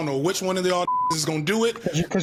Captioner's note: beep